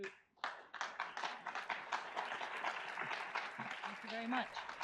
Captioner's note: audience applauds